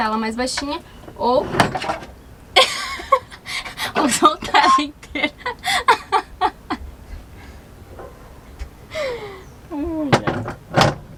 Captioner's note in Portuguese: Gargalhadas